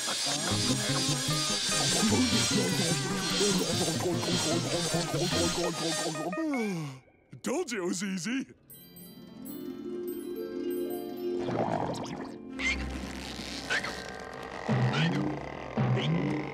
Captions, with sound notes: I told you it was easy! [sparkling] [hiccuping]